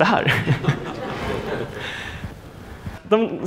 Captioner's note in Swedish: skratt